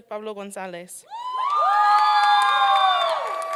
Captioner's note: applause and cheering